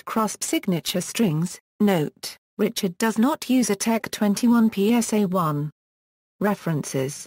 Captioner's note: German